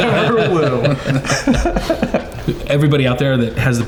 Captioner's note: laughing